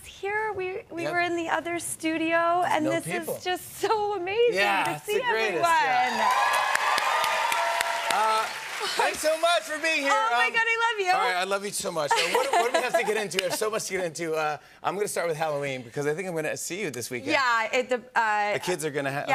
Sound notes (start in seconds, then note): 5.8 cheers and applause